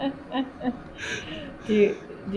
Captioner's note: laughter